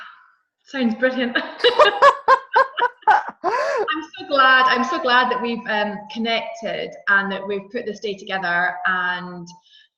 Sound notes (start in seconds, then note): 1.5 laughs